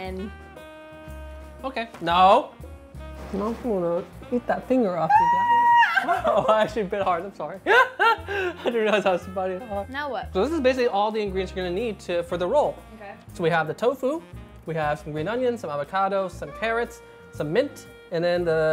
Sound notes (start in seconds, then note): 5.0 screaming; 7.6 both laughing